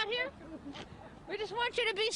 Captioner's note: laughs